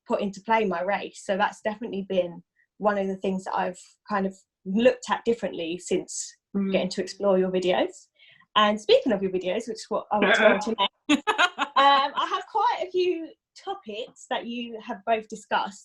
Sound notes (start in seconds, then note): 11.0 laugh